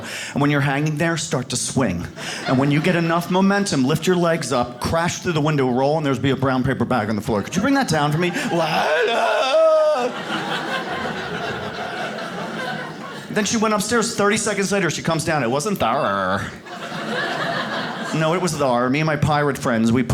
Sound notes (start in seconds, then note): 8.2 yells; 10.4 audience laughs; 16.5 audience laughs